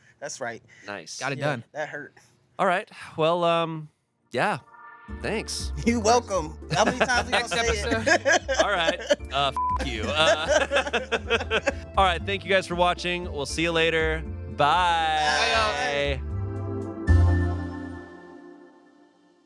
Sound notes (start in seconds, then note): 9.5 beep; 9.8 everyone laughs